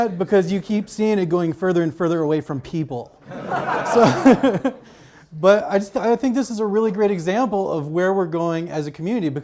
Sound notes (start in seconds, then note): 3.2 audience laughs